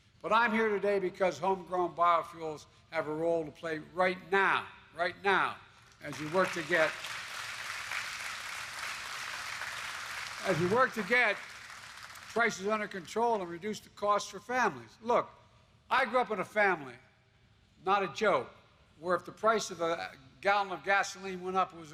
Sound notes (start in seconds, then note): 9.3 applause